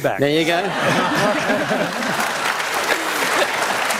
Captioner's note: applause